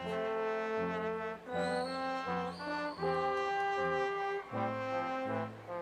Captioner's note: audience member whistles